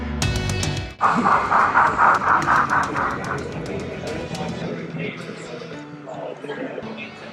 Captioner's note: steam locomotive chuffing